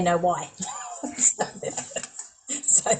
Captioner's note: laughs